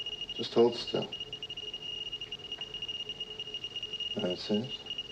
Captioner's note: intense beeping